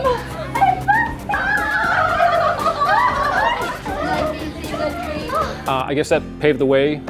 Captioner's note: the women laugh